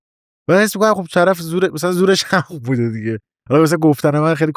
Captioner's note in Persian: خنده